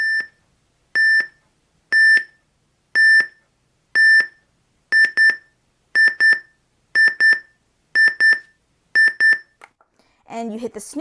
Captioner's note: beeping